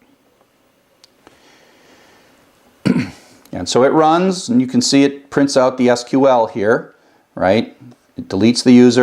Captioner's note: cough